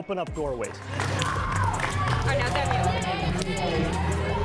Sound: cheering

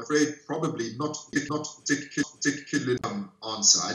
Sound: glitch in audio

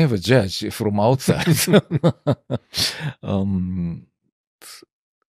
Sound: laughter

